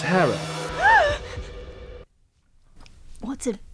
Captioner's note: gasps